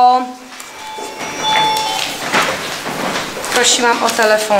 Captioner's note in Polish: Dźwięk dzwoniącego telefonu